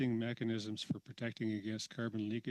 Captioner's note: speaking French